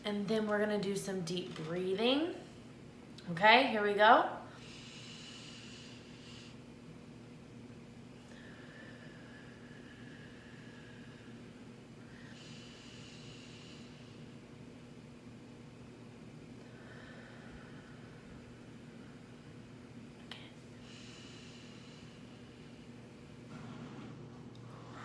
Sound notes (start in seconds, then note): 4.5 inhales softly; 8.3 exhales softly; 12.0 inhales softly; 16.6 exhales softly; 20.3 inhales softly